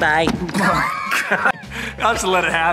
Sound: laughing

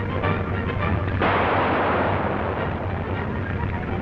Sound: dramatic music; gun firing

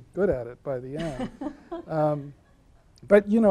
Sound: laughing

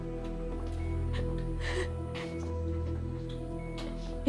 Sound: shaky inhale

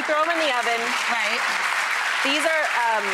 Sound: applause

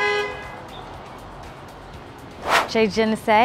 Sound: car horn blows

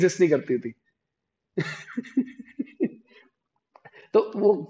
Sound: laughing

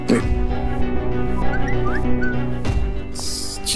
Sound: phone ringing

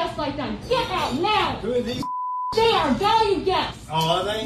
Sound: group chattering

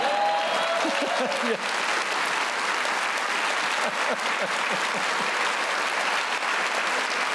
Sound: applause

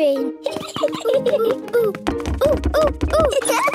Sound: laughs

